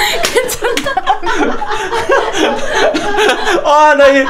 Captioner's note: studio explodes with laughter